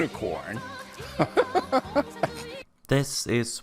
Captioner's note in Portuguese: Risada mais estranha que eu já ouvi